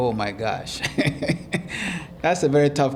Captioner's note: laughing